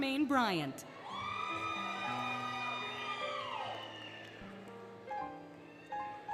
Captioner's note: applause, Cheering, Music